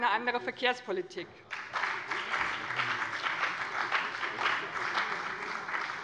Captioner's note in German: Beifall bei dem BÜNDNIS 90/DIE GRÜNEN und der CDU